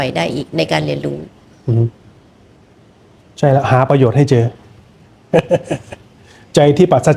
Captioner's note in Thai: เสียงหัวเราะ